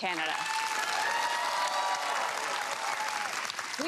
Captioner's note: cheering and applause